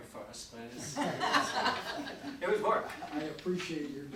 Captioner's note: audience laughing